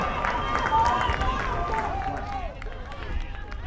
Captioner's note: crowd applauds